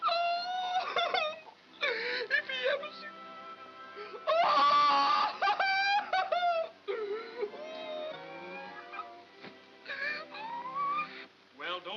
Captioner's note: crying dramatically